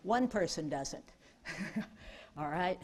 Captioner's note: chuckling